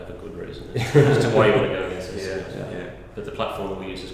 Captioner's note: laughter